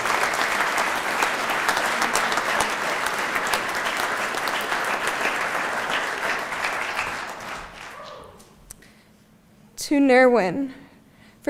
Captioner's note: applause